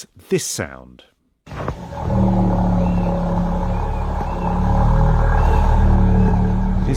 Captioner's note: whale grunting